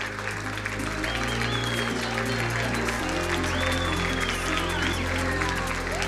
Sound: crowd applauding; crowd cheering drowns out singer

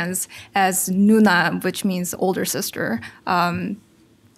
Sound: foreign language

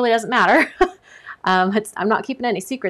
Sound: laughs lightly

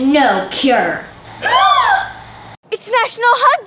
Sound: gasps

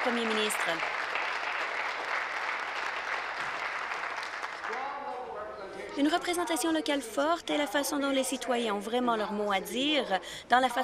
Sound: applause

